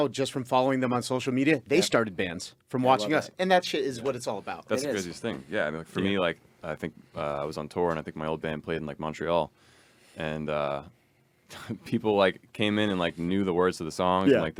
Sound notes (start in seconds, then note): none